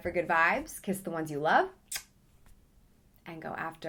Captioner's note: smacks lips